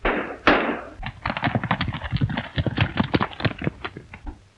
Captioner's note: gun shot